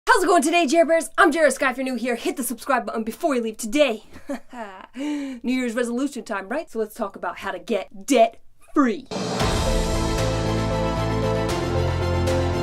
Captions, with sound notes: - How's it going today, Jera-birds? I'm Jera Sky if you're new here. Hit the subscribe button before you leave today (chuckles). New Year's resolution time, right? So, let's talk about how to get debt free. (epic orchestral music)